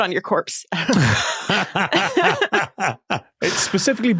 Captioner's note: cackles; giggles awkwardly